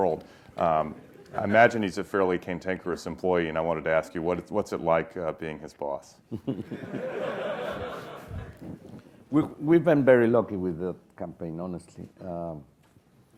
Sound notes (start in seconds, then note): 6.3 laugh